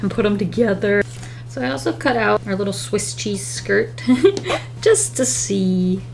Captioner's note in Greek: Γέλια